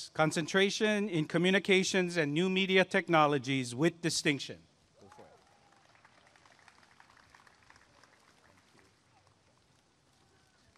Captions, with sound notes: Concentration in Communications and New Media Technologies with Distinction [applause and cheering]